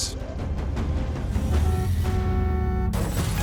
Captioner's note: car horn honking